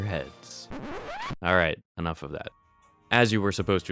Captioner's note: record scratch